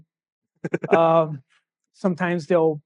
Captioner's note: laughing